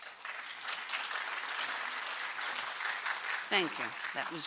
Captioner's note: applause